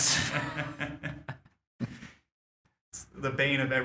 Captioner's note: laughter